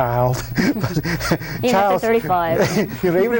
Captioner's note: laughs